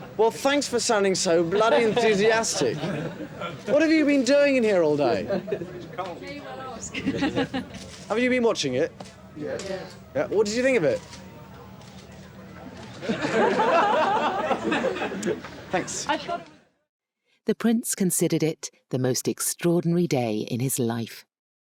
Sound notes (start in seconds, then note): 1.4 reporters laughing; 5.3 reporters chattering; 12.9 reporters laughing